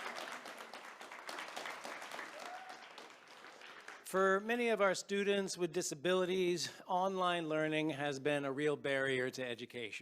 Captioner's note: cheers and applause